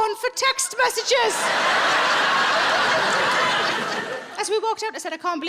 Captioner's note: audience laughing